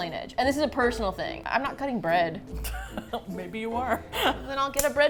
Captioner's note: laughs